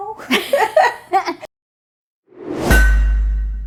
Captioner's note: laughing